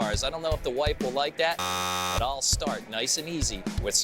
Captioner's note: buzzer buzzing